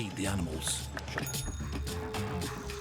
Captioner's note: bell chimes; uptempo music